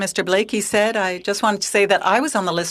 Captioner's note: speaking in french